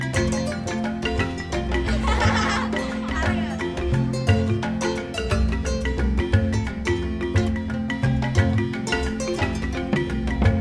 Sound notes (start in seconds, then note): 1.7 students laughing